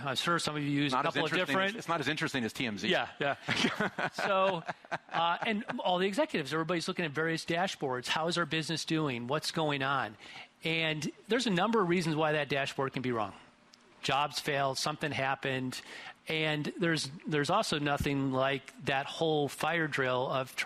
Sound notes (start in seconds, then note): 2.9 interviewer laughs